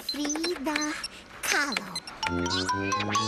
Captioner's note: computer buzzing